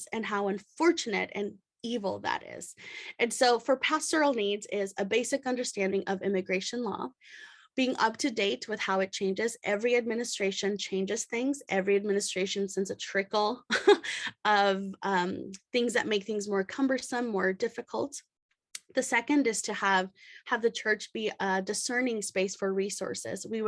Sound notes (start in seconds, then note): 13.7 chuckles